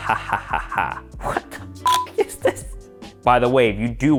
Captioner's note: beep